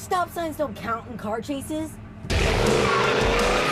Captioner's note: tires squealing